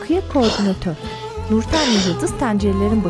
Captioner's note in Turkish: Öksürük